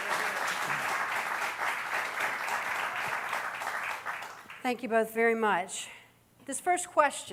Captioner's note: cheering